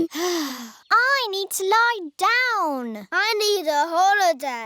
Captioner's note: sighs